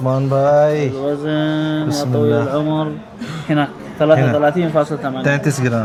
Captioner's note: Arabic